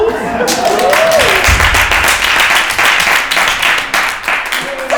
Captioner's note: crowd applauding